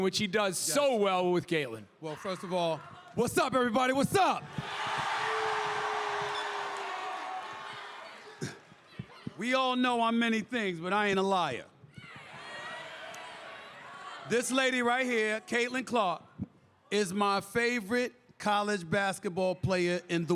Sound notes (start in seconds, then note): 3.8 crowd cheers